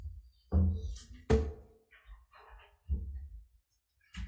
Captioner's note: object thuds